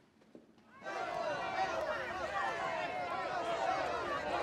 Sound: indistinct shouting

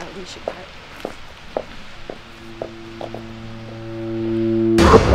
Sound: footsteps clicking; dramatic music

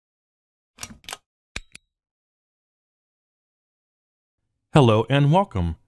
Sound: buttons clicking

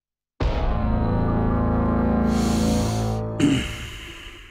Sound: drug dealer saravanan: inhaling drug

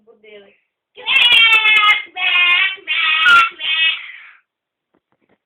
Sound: crying

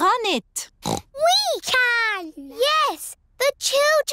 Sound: snorts

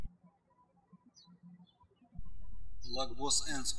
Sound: birds chirping

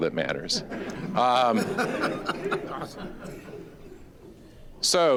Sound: audience laughing

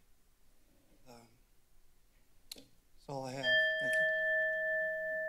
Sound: alarm sound

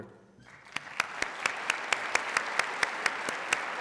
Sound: applause

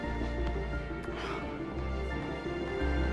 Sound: exhales sharply; sighs

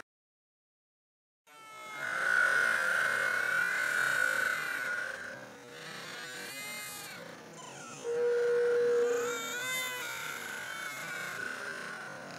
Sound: Lilo and stitch, brother bear, barbie Mattel doll crying continues

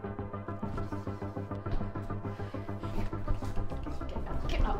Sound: footsteps thumping

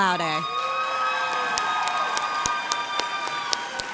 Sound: audience cheers

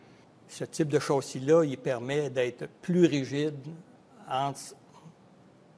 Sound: speaking in foreign language

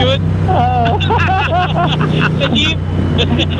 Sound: group laughing

